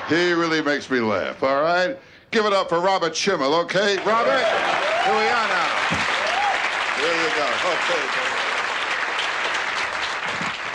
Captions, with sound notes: He really makes me laugh, alright? Give it up for Robert Schimmel, okay? Robert! (cheering) Here you go.